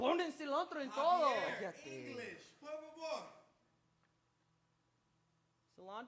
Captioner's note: speaks in Spanish; speaks in Spanish